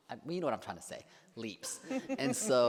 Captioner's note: laughs